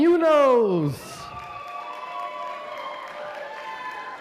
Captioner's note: applause